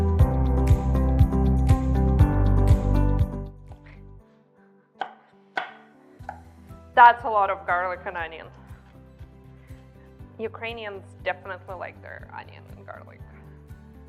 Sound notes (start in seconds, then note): 0.1 gentle bright music; 3.8 chopping